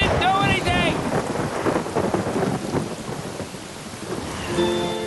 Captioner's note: thunder and rain